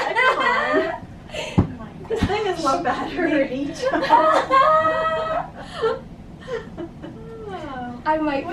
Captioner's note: laughter